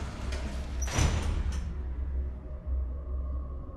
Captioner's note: thudding